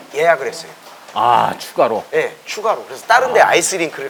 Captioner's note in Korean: 감탄